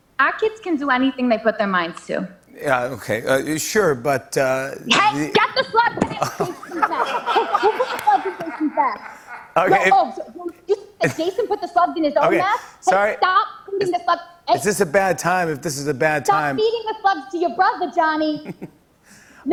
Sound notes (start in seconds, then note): 6.0 laughter